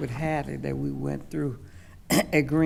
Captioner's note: coughs